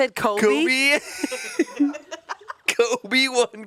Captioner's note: laughs